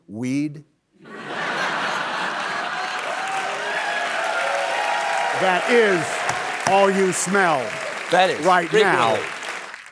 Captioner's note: cheers and applause